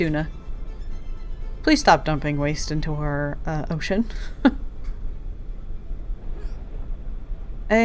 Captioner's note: laughs